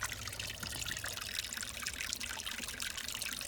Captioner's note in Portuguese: Barulho de água correndo